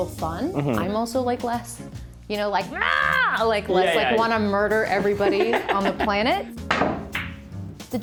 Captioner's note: shouts